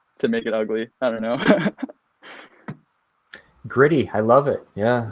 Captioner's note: laughs